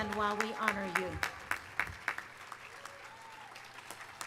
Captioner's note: audience cheering